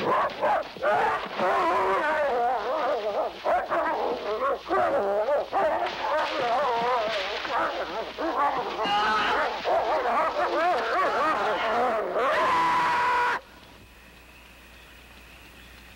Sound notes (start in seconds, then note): 0.2 Shep barking and snarling; 8.2 Shep snarling, Lin groaning; 12.1 Lin screaming